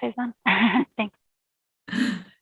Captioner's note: laughs